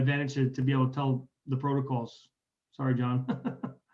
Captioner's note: laughing